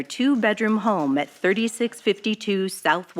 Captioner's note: archival news audio